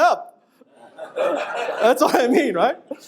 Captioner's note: audience laughing